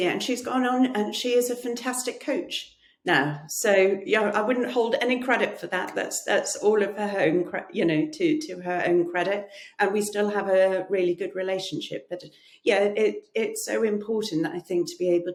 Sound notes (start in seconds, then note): none